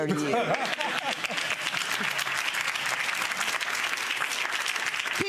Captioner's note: audience applauding